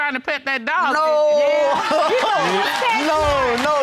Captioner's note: laughs; audience applauding